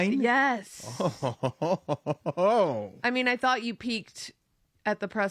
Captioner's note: laugh